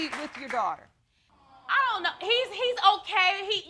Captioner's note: audience exclaiming